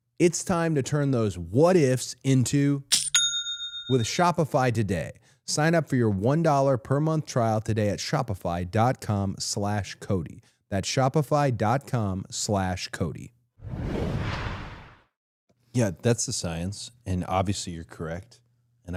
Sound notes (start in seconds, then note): 3.2 cash register dings